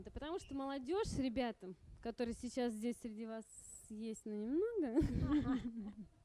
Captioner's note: laughs